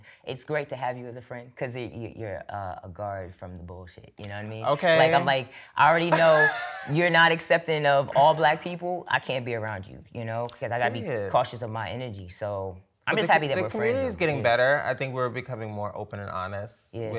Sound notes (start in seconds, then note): 6.1 laughs